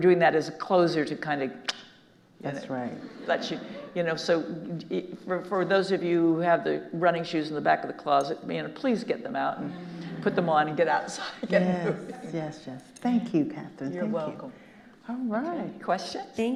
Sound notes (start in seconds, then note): 1.3 clicks tongue; 11.0 laughing